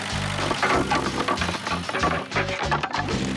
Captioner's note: boards Clatter